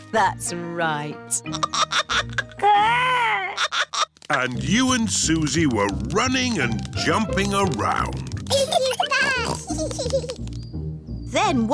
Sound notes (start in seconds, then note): 1.5 giggling; 8.5 both giggling